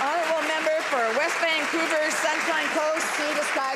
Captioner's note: applause